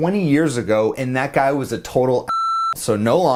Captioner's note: beep